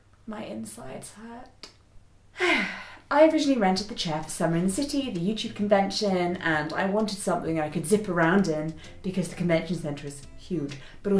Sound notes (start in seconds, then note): 2.4 sighs